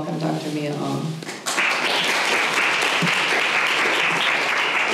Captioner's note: applause